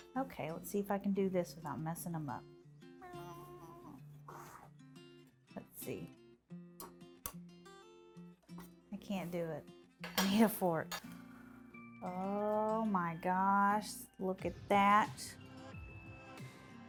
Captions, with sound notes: Okay, let's see if I can do this without messing them up. (anxious vocalizing) Let's see. I can't do it. I need a fork. Oh my gosh, look at that.